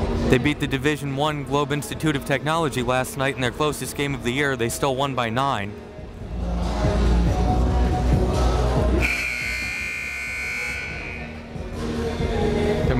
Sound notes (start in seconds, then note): 9.0 buzzer blaring